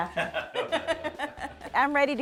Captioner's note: both laugh